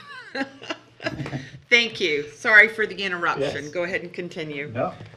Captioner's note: laughs